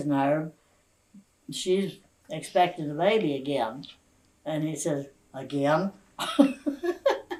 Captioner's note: laughs